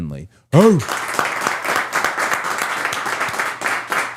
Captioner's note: audience applauds